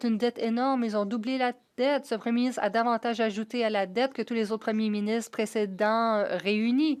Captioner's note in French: voix de l'interprète